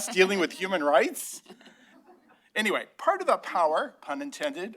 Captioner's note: laughter